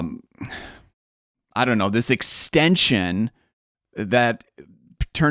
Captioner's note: sighs